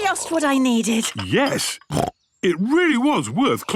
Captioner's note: snorts